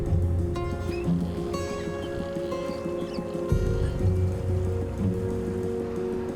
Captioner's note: birds singing